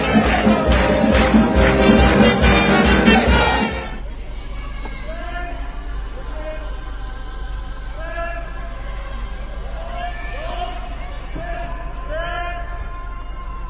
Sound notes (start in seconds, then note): 5.4 light music; 5.4 speaking in foreign language